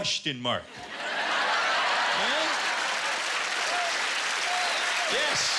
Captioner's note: laughter and applause